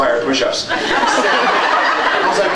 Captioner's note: laughs